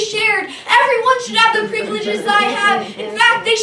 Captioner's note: audience Talks